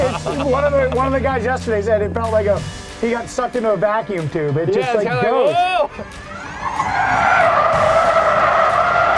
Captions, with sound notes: One of the guys yesterday said it felt like he got sucked into a vacuum tube Yeah it's kinda like "Whoa!" (squealing tires sound)